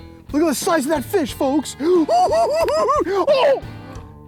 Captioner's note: giggles